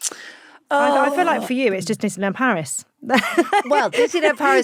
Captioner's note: laughs